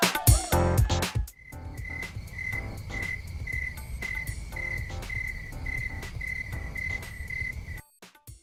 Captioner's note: crickets